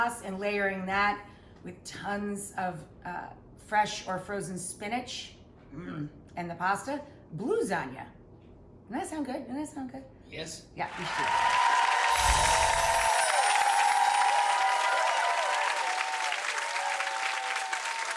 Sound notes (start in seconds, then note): 10.8 audience cheering; 10.8 audience clapping